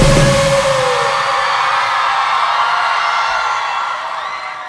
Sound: crowd cheering

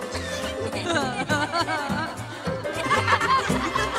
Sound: cartoons laugh

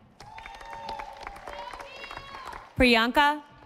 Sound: audience applauding

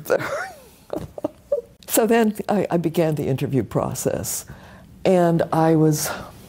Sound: laugh

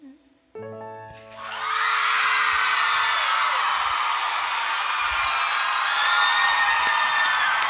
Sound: audience cheers

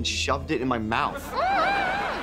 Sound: humming

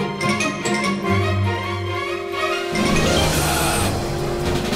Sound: tires squeal

